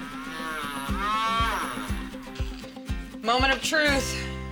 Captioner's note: grinding